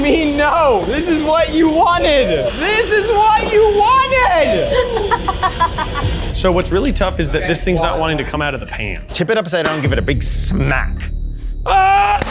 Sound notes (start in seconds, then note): 4.4 laughs